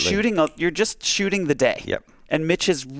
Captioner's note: fingers snap